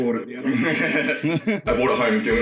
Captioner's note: laughter